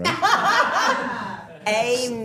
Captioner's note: all laughing